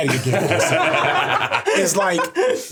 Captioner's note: everyone laughing